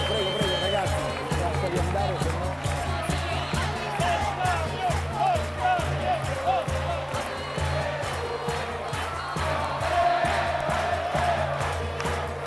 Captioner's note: Applauso